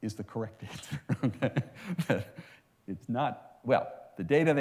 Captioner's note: laughs